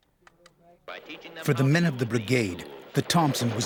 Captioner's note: voiceover